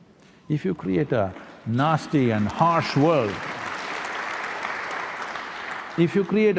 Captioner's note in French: Applaudissements